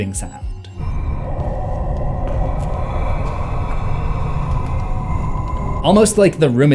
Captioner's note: breathing